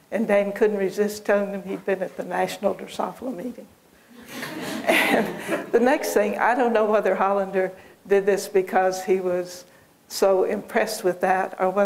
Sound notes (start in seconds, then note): 4.2 laughter